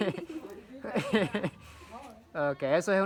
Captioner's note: people laughing